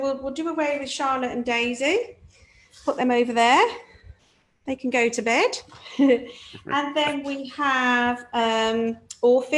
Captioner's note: chuckles